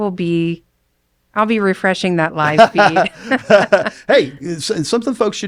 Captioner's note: laughs